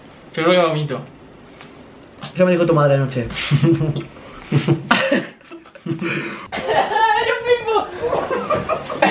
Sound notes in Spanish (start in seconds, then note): 3.4 risas; 6.4 tosiendo o vomitando